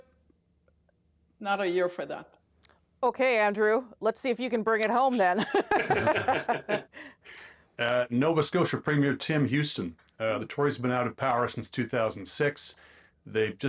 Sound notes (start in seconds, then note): 7.1 laughter